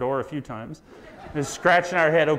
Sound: audience laughs

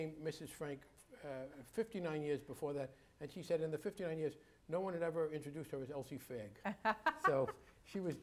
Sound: laughs

